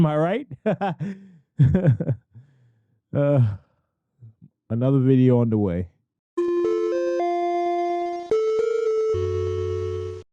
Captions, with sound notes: Am I right? Haha. Ugh. Another video underway. (chiming) *alarm sounds*